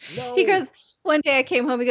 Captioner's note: laughs